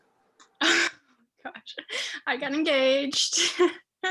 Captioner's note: giggles